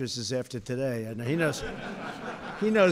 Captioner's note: laughter